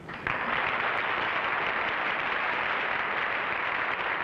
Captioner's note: applauding